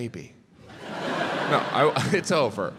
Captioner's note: crowd laughs